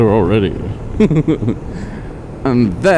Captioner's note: laughs